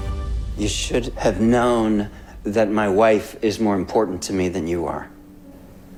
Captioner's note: voiceover